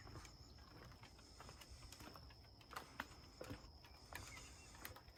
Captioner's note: footsteps tapping